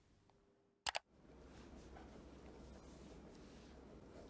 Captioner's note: click sound